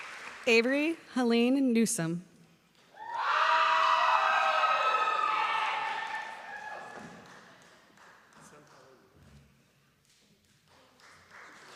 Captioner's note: applause; screaming